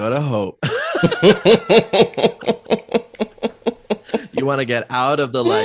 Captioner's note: everyone laughs